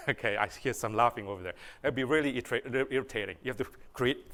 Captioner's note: laughter